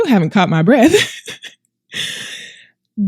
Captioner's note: laughs